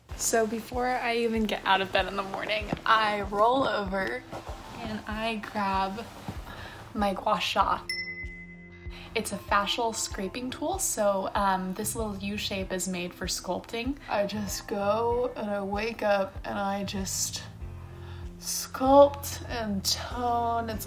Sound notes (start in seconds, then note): 7.8 chimes